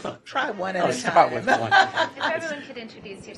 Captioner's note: laughter